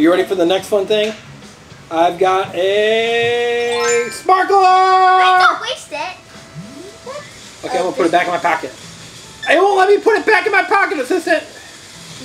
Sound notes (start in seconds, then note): 3.7 chime as sparkler appears